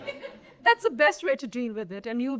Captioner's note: audience laughing